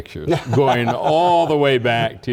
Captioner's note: laugh